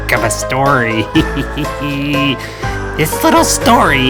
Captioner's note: creepy laughing